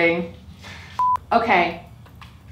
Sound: beep

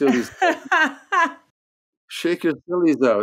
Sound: laughing

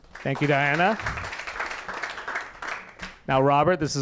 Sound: applause

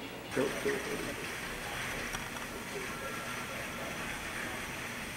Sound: electric whirring

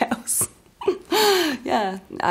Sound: laughs

